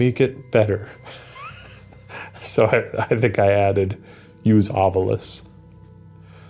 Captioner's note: laughs